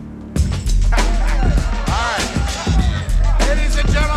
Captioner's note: thumping hip hop beat; laughs